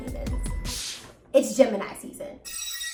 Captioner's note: liquid sprays; chimes ring